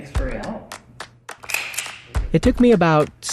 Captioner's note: gun clicks